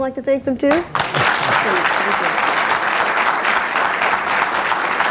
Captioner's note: audience applauds